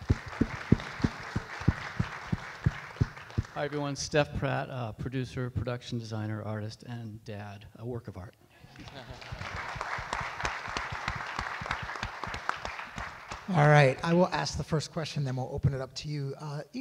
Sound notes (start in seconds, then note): 0.0 audience applauds; 8.6 audience laughs; 8.7 audience applauds